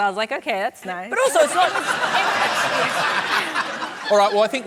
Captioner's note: laughter